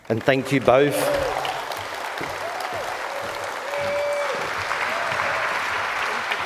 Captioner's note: audience applauds and cheers